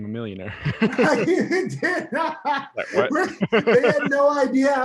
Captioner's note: laughs